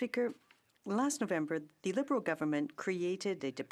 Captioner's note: speaking French